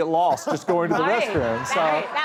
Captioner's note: laughs